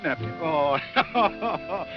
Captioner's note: laughs